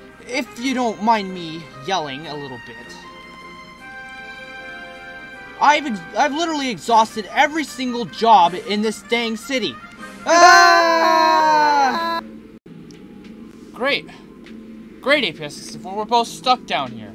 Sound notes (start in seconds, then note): 10.2 both screaming